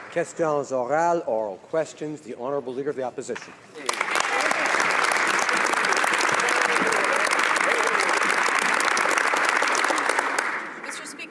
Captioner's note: applause